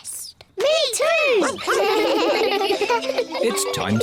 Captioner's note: giggle